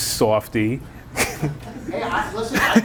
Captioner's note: laughing